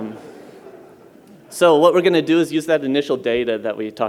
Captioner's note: laughter